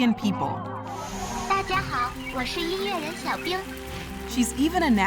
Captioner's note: Xiaoice speaking Chinese dialect